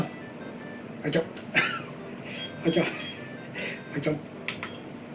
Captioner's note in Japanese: 笑い